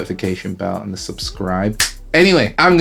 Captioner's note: snaps fingers